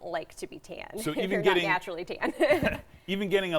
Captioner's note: laughs